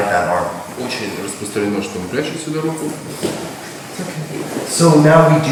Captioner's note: speaking in a foreign language